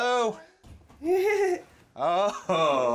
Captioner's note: laughs